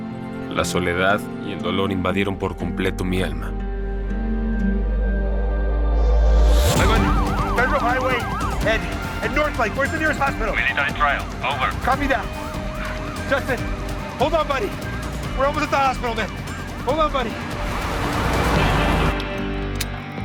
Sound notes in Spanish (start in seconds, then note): 6.5 Sirena de patrulla; 9.6 Voz en la radio